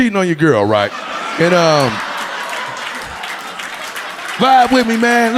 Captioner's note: audience laughing